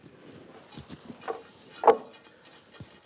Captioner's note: soft rattling